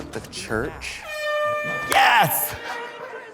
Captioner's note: air horn blares